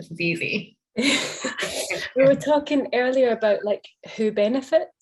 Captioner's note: laughter